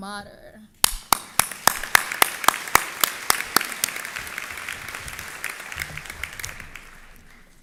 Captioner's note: applause